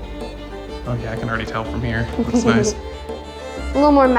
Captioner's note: laughs